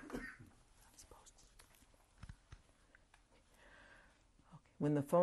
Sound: pauses for 3 seconds

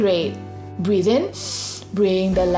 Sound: breathes in deeply

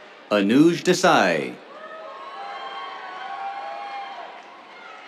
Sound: cheers, applause

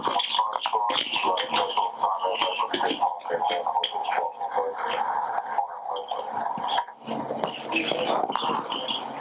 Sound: laughs

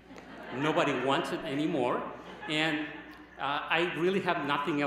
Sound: laughter

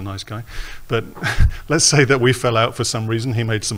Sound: laughs

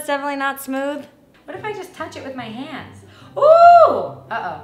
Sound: gasp

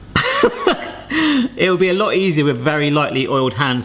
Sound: laughing

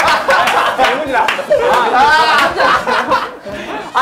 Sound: members burst out laughing because of his honesty

